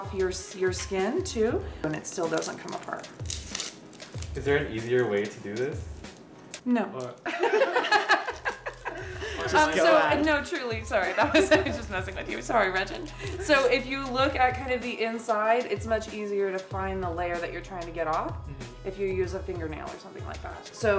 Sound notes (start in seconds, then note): 7.2 laughing